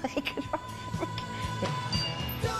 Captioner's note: chuckling